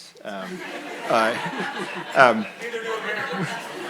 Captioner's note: everyone laughs